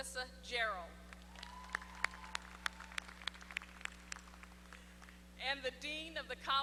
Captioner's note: applause